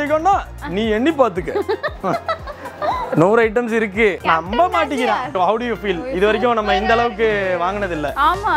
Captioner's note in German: Lachen